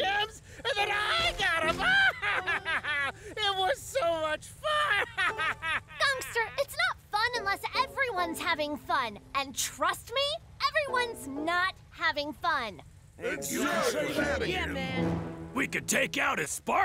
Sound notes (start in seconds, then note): 4.6 laughing maniacally